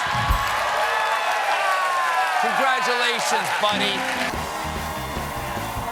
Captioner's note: cheers and applause